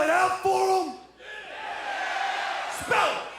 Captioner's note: crowd cheering